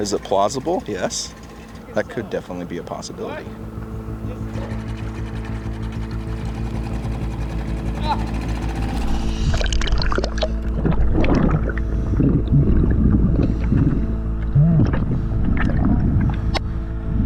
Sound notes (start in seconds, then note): 5.1 boat engine humming; 9.9 muffled underwater sounds